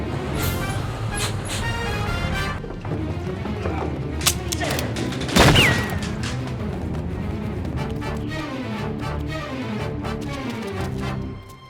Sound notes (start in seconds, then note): 4.2 guns firing; 8.2 dramatic music